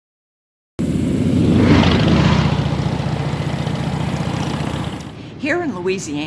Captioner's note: motorcycle engines revving